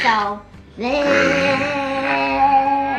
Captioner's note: mimics groaning into a fan; child growls